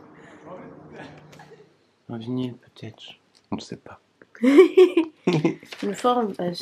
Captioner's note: laughs